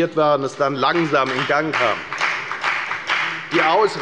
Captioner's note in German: Beifall bei der FDP